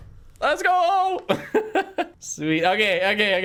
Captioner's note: laughs